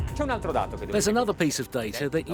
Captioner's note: speaking Italian